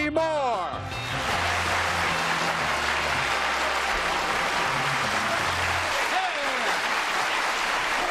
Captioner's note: applause